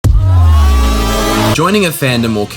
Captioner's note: intro sound effect and distorted screaming